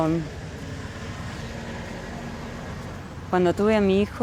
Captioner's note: indistinct chatter